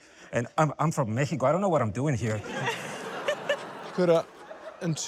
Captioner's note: laughter